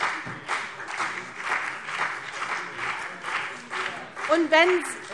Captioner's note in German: Beifall CDU und BÜNDNIS 90/DIE GRÜNEN